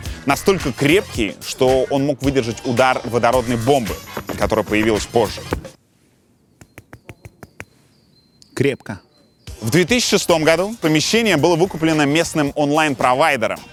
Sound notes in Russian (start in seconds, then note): 6.6 Стучит